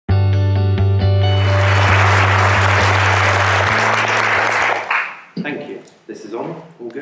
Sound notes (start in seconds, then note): 0.2 gentle guitar music; 1.3 clapping